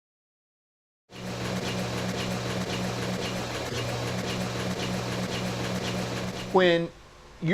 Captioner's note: press sounds